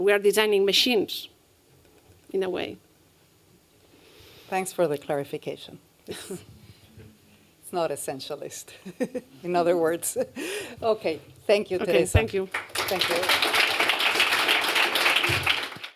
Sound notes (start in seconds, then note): 12.2 applause